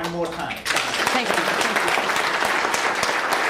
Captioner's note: thunderous applause